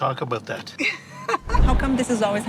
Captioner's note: laughing